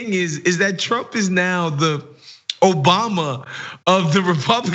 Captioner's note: laugh